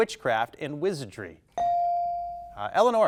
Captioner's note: bell dinging